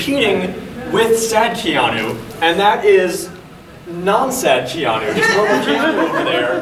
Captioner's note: audience chuckling